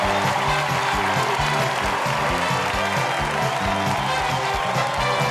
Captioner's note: cheers and applause